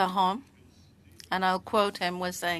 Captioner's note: speaking French